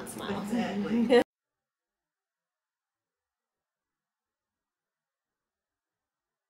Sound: laughing

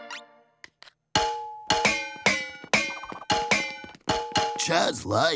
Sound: metal clanking

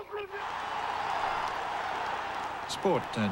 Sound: cheering

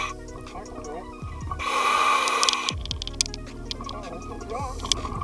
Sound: breathing; breathing

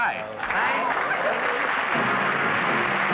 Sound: applause; music & applause

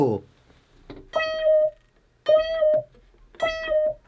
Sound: continues making meows once again

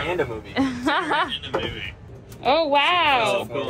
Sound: laughs

